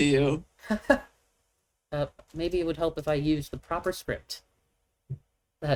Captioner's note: chuckles